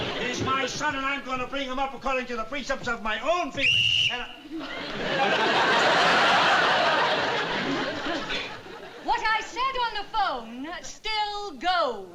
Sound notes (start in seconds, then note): 3.6 whistle blows